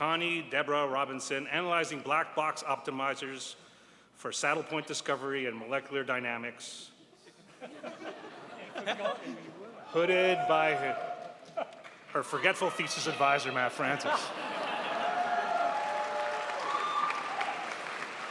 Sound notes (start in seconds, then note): 7.2 audience laughing; 14.1 crowd applauds